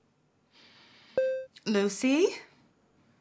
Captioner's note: computer beeps